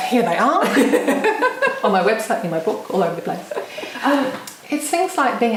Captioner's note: laughing